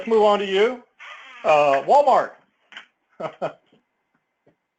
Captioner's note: laugh